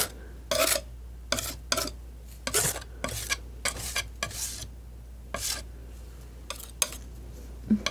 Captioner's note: scratching